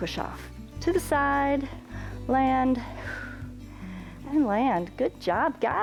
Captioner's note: exhales